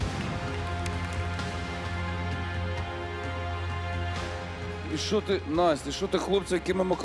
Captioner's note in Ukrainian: оплески